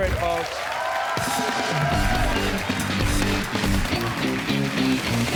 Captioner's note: cheers and applause